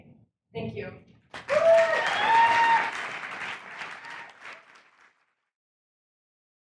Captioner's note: audience cheers; audience applauds